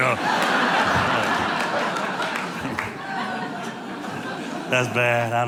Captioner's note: audience laughing